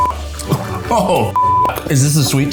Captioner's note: beep